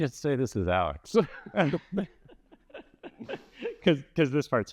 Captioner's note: laughter